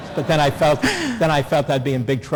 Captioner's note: laughter